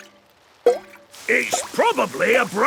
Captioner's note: water dripping